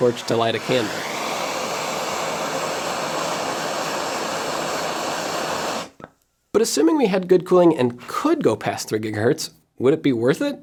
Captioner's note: blowtorch noises